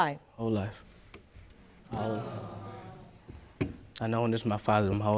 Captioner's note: audience exclaiming